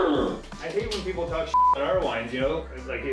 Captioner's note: face slapping; beep